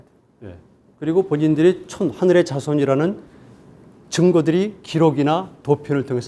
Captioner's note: speaking in Korean